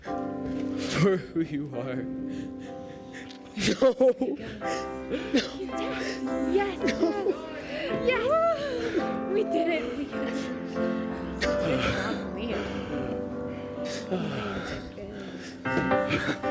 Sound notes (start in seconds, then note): 5.7 random celebrations